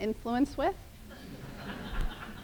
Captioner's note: laughter